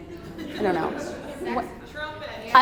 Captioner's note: audience laughs